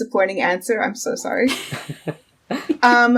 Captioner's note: laughing